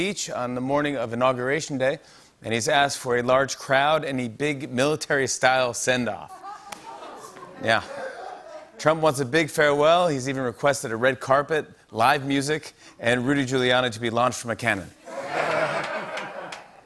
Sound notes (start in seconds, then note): 6.3 laughter; 15.0 laughter and applause